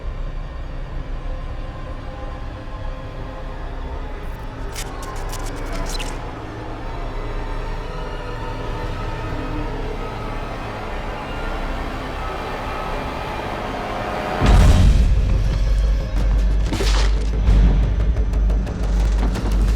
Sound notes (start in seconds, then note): 4.6 frightening music; 4.6 static crackling